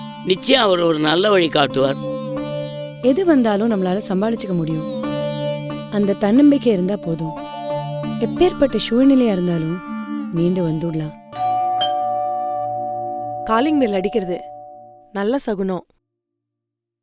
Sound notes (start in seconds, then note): 11.4 doorbell dings